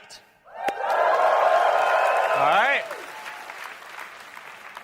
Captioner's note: applause